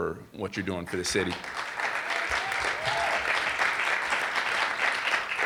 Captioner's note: audience applauding